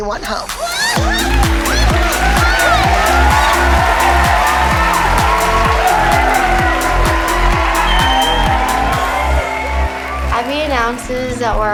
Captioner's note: cheering